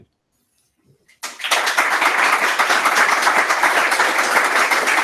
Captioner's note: applause